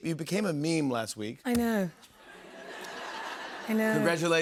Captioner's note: laughter